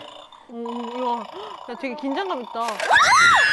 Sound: growling

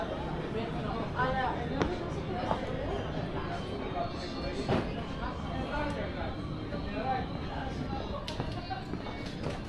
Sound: people chattering

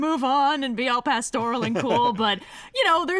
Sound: laughs

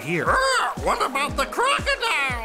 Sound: squawking

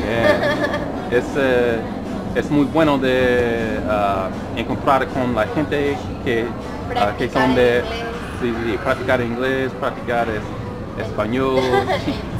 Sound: spanish

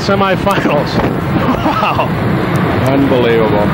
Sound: laughs

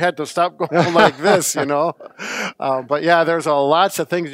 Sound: laughs

